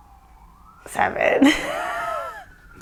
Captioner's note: laughs